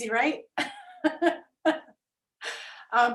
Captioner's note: laughs